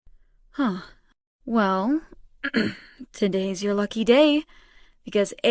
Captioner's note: clears throat